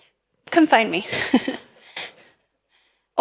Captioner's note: laughs